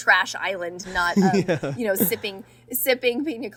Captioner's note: Hyram laughing